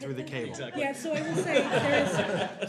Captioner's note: laughter